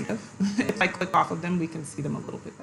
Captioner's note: giggles